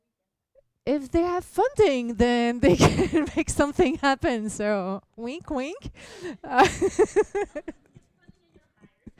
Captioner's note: laugther; laughs